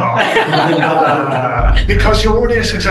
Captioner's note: panelists laughing